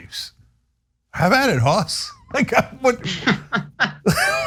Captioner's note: laugh